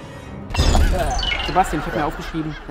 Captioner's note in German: Husten